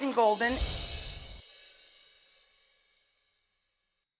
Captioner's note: bells jingle